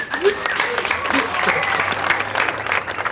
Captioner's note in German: Applaus